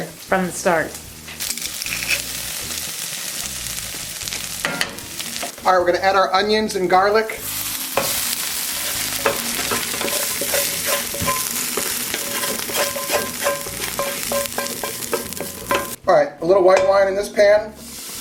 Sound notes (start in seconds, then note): 1.4 garlic cracking; 1.6 oil sizzling; 7.7 oil sizzling; 9.7 spoon scraping